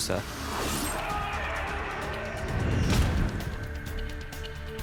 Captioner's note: screaming